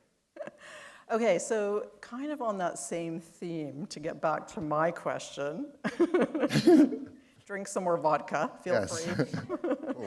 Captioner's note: chuckle; chuckle